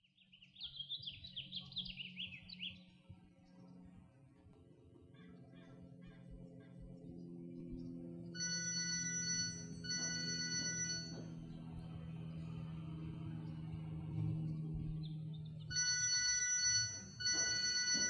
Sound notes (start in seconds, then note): 0.1 birds chirping; 8.3 phone ringing